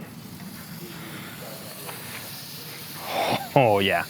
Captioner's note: butter sizzling